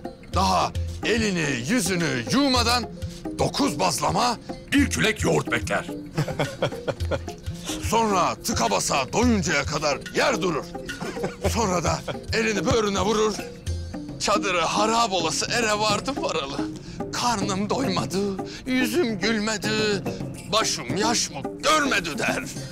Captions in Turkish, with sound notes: ...daha elini, yüzünü yıkamadan dokuz bazlama, bir kürek yoğurt bekler. (Gülme sesi) Sonra tıka basa doyuncaya kadar yer durur. Sonra da elini böğrüne vurur. "Çadırı harap olası ere vardım varalı, karnım doymadı... ...yüzüm gülmedi, başım yaşmak görmedi." der.